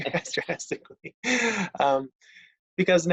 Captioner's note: laughing